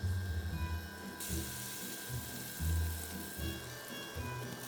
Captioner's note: sizzling